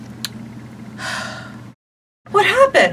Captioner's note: sighing